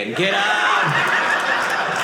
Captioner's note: audience laughing